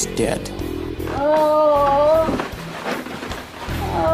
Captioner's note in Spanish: Sonidos de gemidos